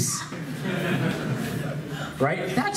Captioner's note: laughs